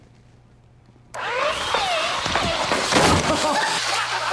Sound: belt sanders whirring; laughing

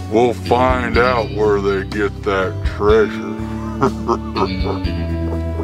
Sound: chuckles

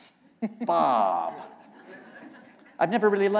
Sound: laughter

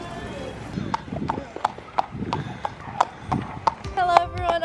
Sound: horse shoes clopping on the ground

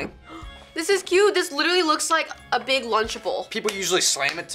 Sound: gasps

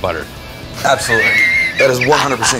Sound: laughs

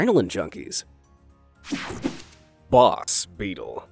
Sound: logo snaps

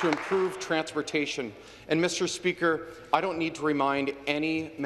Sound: some Applause

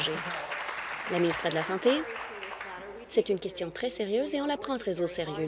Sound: applause

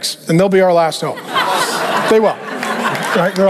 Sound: congregation laughing

